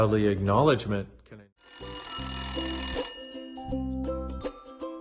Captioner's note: Dain's mobile phone rings